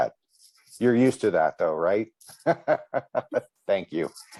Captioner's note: chuckles